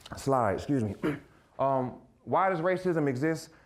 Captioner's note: clearing throat